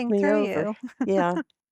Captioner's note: giggling